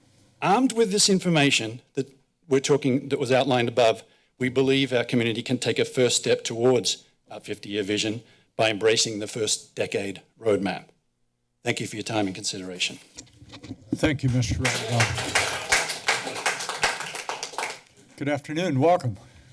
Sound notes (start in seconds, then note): 14.0 applause